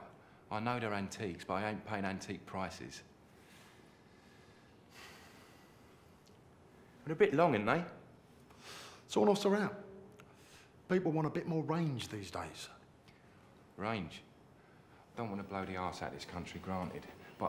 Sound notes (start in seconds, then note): 5.0 sighs